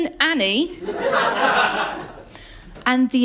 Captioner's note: laughter